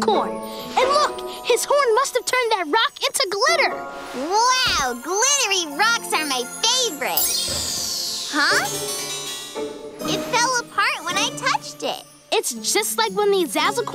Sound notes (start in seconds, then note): none